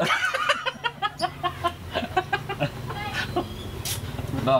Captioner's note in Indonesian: ketawa monyet